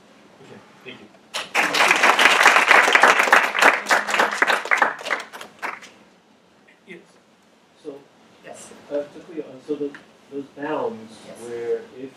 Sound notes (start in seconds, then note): 1.3 applause